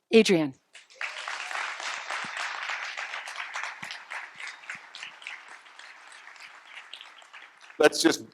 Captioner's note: applause